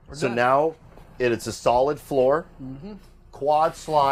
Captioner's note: none